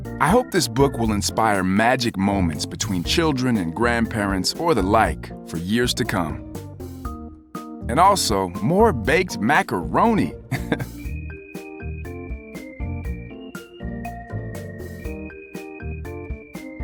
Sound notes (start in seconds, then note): 10.6 laughs; 11.0 upbeat music